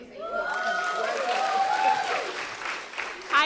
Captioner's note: applause